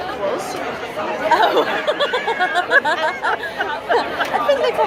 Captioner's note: laughter